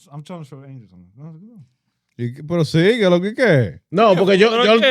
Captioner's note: speaking In Foreign Language